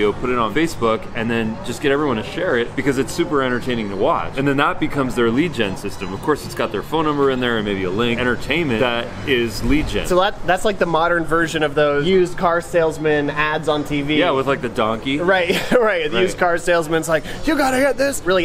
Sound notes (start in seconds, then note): 15.4 laughing